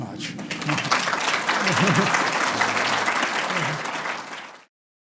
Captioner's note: applause